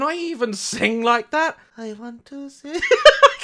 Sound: quietly; laughs

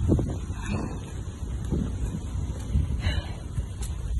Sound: heavy breathing

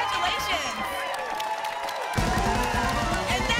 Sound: applause

